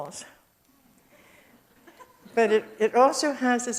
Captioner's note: audience laughs